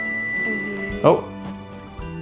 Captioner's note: oven beeps